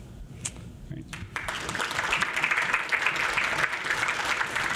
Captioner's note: audience applauds